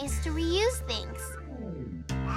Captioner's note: babbling